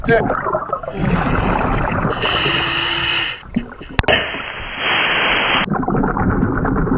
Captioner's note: water burbling; regulator hissing